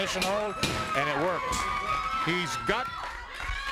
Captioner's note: bell ringing